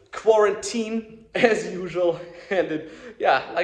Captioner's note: laughs